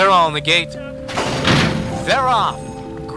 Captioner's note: gate rattling